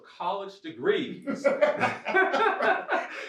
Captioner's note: laughs